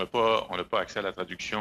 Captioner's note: speaking French